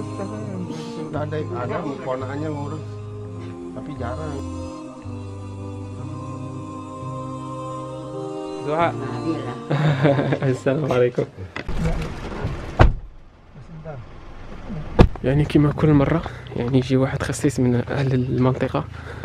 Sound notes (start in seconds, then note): 0.8 speaking Inodensian; 9.6 giggles